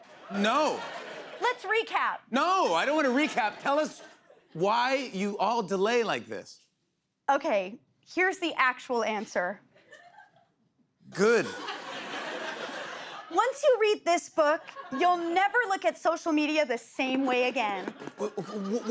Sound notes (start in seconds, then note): 9.7 laughter